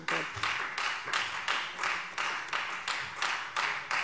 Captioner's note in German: Beifall Freie Demokraten